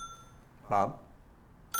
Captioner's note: phone rings